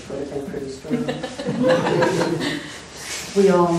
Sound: laughter

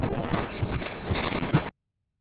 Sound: crash; wind noise

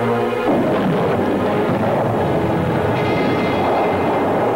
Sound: explosion booming

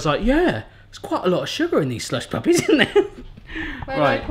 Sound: laughs

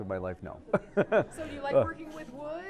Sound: laughs

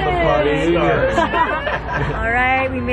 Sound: laughs

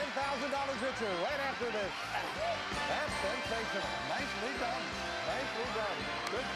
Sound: audience applauding

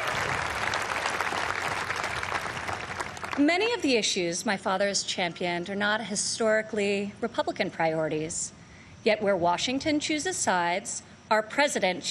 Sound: applause

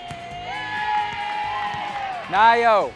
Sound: cheering

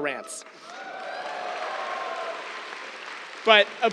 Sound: cheers, applause

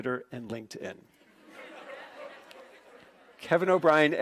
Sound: laughing

